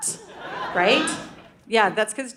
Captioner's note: audience laughing